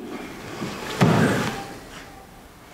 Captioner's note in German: Knall